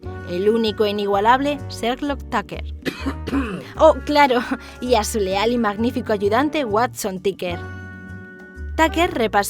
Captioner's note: cough: ehm ehm